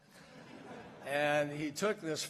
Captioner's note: laughter